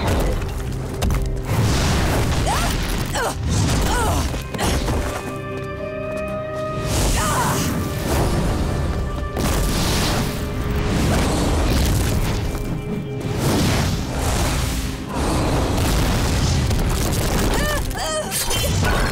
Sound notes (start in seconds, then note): 2.0 groaning; 6.6 grunting; 17.0 groaning